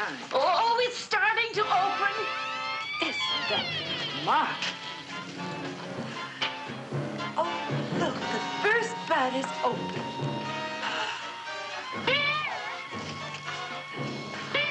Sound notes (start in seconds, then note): 1.8 dramatic music; 2.8 creaking; 10.6 gasping; 12.0 suspenseful music; 12.0 twanging